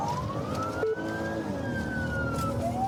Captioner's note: siren blares